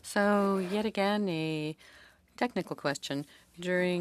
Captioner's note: speaking French